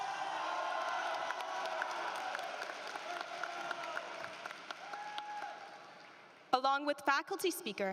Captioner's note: applause